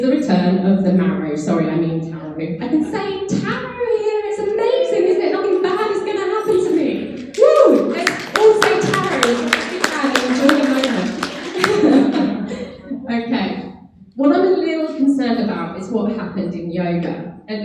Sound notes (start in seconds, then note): 7.1 clapping; 12.1 laughs